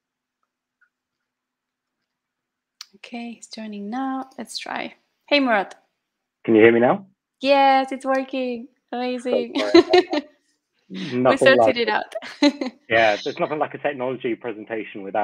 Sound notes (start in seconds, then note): 9.4 laughter; 12.2 laughter